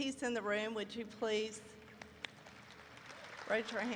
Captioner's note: applause erupts